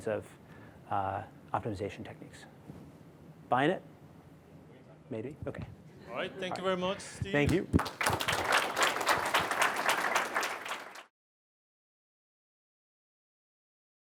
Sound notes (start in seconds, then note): 7.4 applause